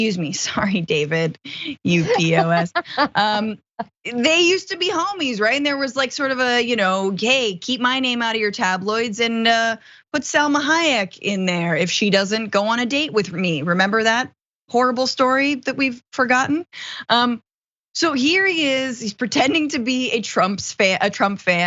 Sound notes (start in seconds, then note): 1.9 laugh